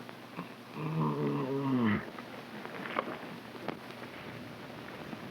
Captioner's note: Phantom groaning